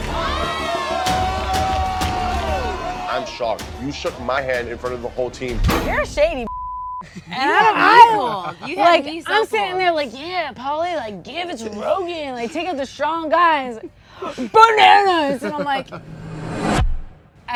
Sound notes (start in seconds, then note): 0.0 group shouting; 6.4 beep; 15.8 dramatic music